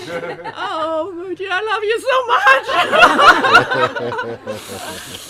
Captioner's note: laughter